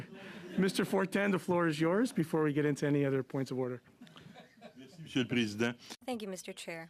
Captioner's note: laughter